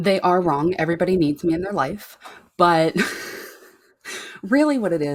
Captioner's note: chuckles